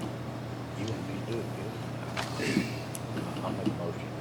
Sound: faintly speaking

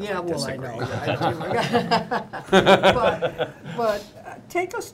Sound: laughter

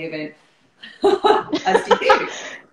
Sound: laughter

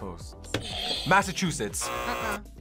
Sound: buzzer rings; buzzer

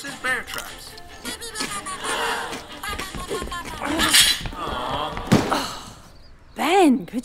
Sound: television, presenter talking; baby babbles whilst the crowd gasps in horror and awe; box slams down; Lucy sighs

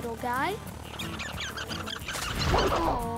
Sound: squeaking

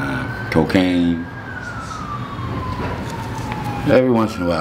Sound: police siren blaring

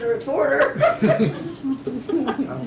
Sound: laughs; laughter

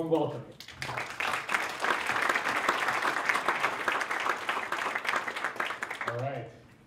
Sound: applause

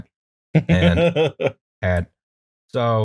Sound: laughter

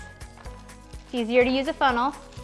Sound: pouring rice

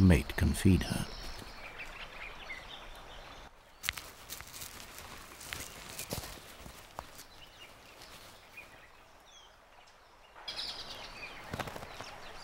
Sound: birds chirping

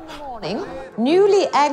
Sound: gasping

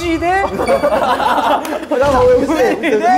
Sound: hahahahahahaha

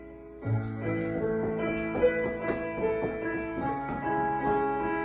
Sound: feet thuds on ground

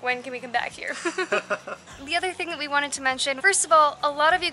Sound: laughter

